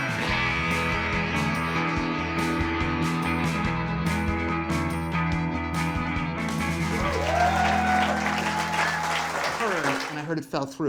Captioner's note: cheering